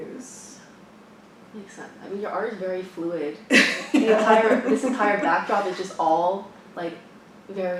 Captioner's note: laughs